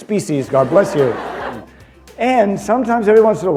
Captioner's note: laughter